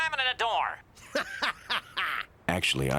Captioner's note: laughing